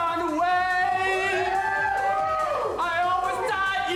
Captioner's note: friends cheer